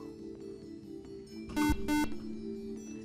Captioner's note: beep